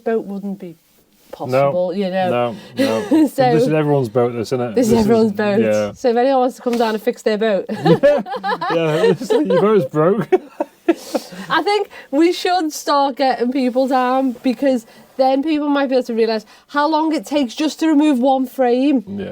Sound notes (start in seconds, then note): 7.7 laughing